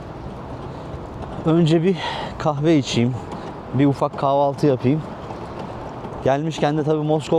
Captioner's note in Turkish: iç çeker